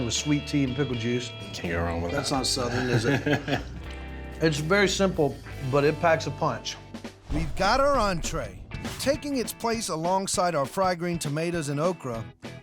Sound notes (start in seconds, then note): 2.2 laughing